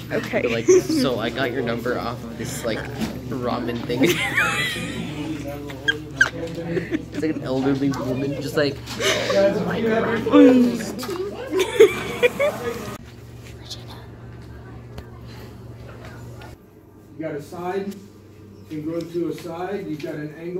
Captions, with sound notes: okay Jon-Just be like so I got your number off this like ramen thing It's like an elderly woman just like *old lady voice* Oh! I like noodles too! *whispers* regina!